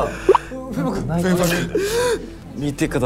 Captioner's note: is crying!!